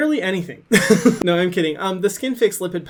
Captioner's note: laughing